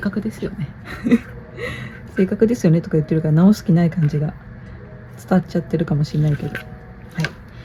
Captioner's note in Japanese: 笑い